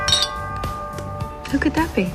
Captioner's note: doorbell ringing